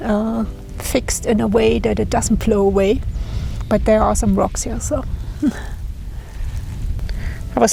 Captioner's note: laughs